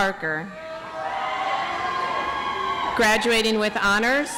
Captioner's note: audience applauds